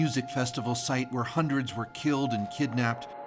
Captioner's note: sirens